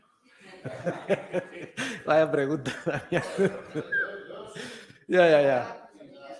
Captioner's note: laughs